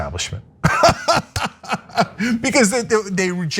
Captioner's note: laugh